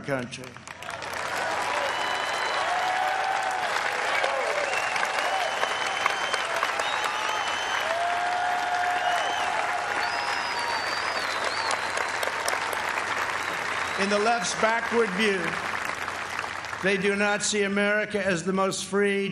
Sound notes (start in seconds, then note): 4.6 applause